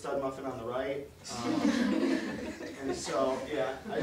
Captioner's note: audience laughter